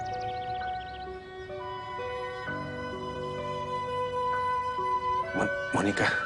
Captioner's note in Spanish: Sollozos